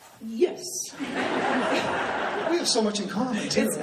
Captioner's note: laughing